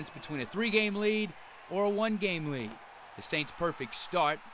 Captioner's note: cheering and applause